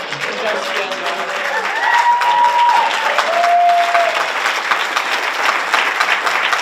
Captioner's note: audience applauds and cheers